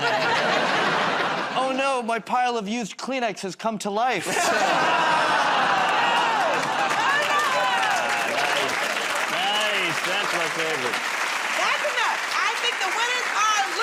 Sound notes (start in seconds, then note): 4.4 audience "Oh"s